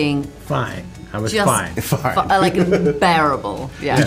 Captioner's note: laughs